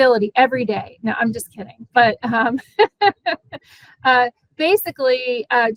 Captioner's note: laughing